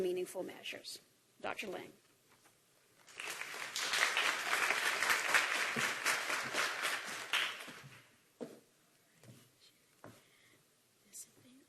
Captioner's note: applause